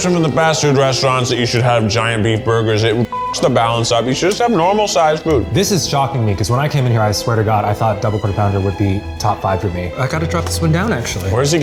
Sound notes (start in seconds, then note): 3.0 beep